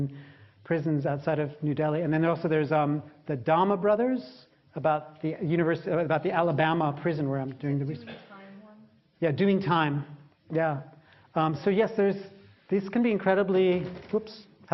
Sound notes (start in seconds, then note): 9.0 hostess voice